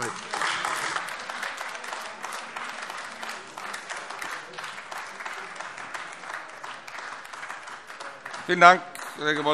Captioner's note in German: Beifall AfD